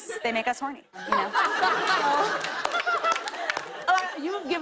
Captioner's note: laughter